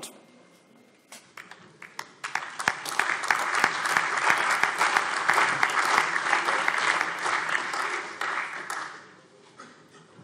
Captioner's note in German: Allgemeiner Beifall